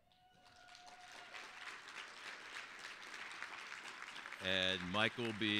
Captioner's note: applause